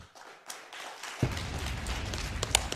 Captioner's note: slow claps everywhere